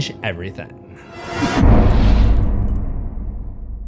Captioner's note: impact